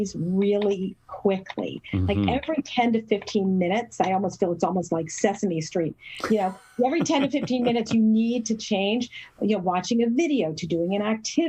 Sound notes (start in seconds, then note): 6.2 laugh